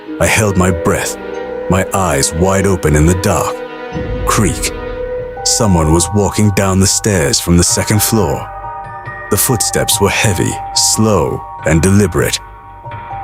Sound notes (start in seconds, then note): 4.4 creak